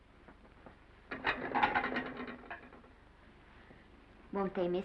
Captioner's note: plates clattering